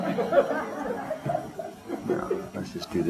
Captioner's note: audience laughter